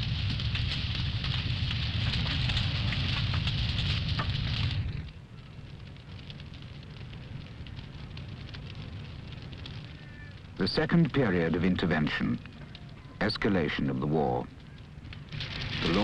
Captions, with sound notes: (fire crackles) The second period of intervention, escalation of the war,